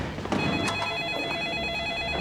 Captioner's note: phone ringing